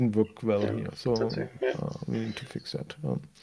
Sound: faintly speaks

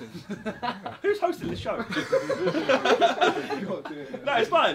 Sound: all laughing

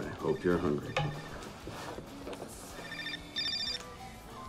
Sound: phone rings

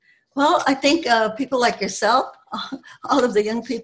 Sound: giggles

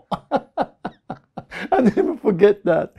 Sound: laughs

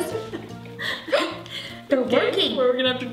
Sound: laughing

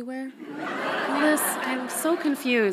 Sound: audience laughs loudly

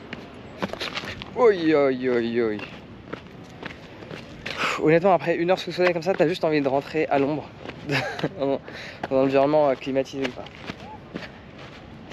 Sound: speaking in foreign language

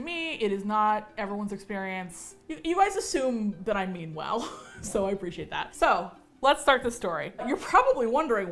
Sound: chuckles

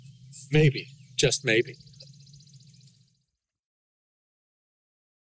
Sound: birds chirping

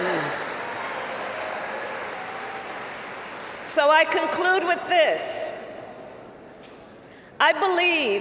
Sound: applause

